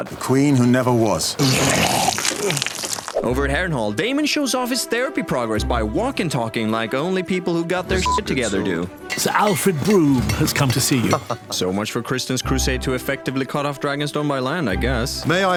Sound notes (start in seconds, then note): 1.4 vomits